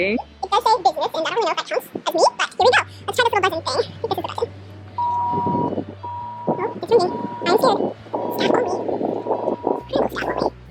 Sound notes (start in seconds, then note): 0.0 high speed speech effect; 6.0 intercom rings three times; 7.7 high speed speech effect